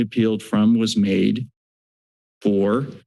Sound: silence

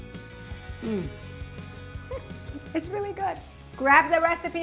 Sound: chuckles

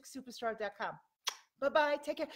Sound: kisses

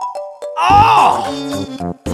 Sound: grunt of frustration

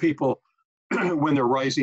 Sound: clearing throat

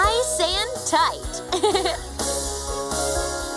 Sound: giggling

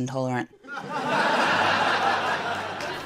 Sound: laughter

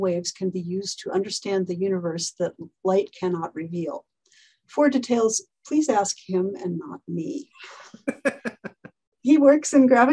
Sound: laughs

